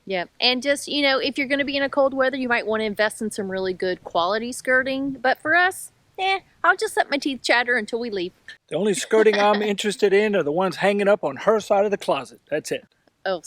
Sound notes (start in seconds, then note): 8.9 laughs